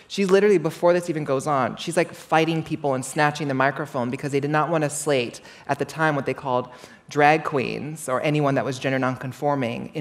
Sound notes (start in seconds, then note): none